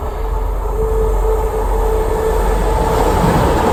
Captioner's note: sound of a train coming